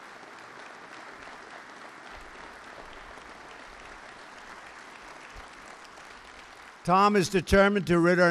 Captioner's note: applause